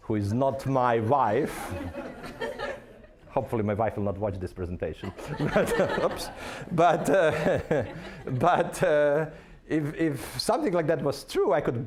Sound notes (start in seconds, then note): 1.0 audience laughing; 5.0 audience laughing